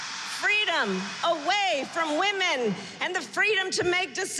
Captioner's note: applause